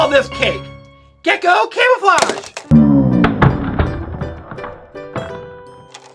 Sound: crashes

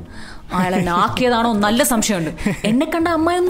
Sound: chuckles

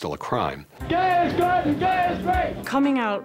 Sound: chanting

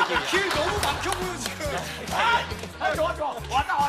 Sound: cheering wildly

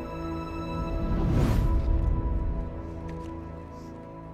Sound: suspenseful music; whooshing

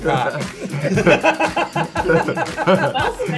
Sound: group laughing

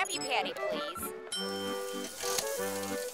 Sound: dinging

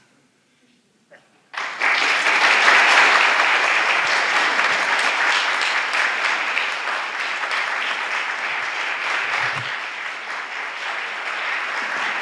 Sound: applause

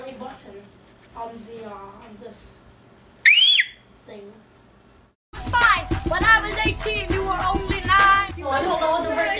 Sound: high-pitched scream

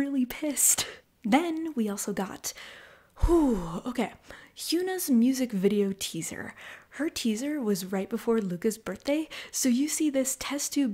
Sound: whew

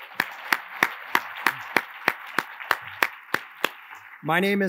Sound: attendees applauding

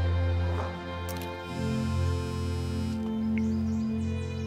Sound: Sutter's phone buzzes

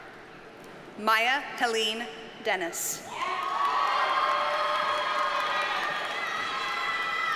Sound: audience cheers and applauds

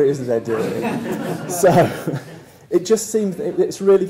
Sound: laugh

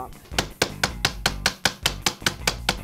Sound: hitting

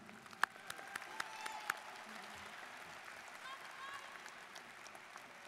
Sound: students cheering and applauding

